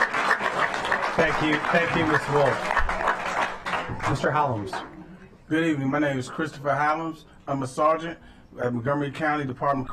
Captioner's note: applause